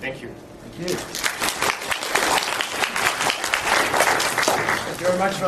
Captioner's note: audience applauding